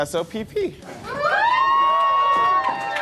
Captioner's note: cheering